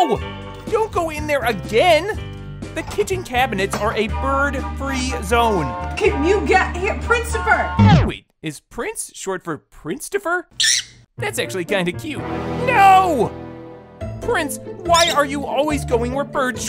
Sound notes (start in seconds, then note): 10.6 squawking